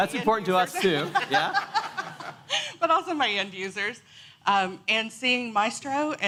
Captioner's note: laughter